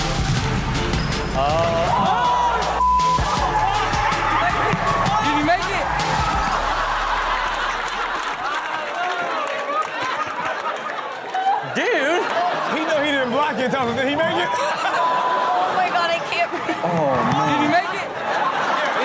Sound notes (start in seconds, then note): 0.8 people shouting; 6.3 everyone laughing